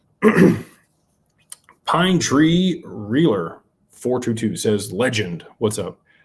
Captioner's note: clears throat